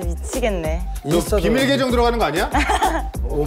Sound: laugh

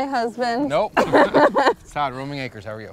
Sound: laughing

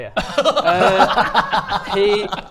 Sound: really mean giggles

